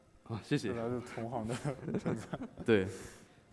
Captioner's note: laughs